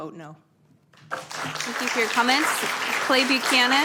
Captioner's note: applause